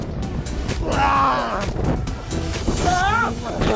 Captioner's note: grunting